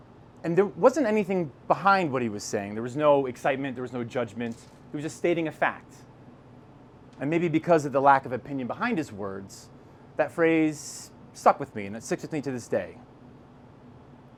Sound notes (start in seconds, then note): none